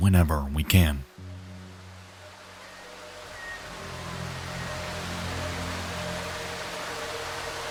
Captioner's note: eerie music; rain pattering